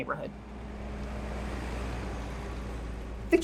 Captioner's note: car engine